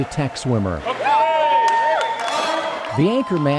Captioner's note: supporters cheering